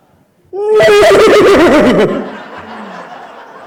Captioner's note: weird distorted grunting noise